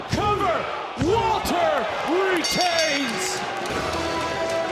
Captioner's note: bell rings